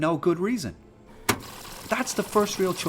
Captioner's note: whirring